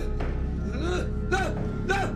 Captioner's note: footsteps tapping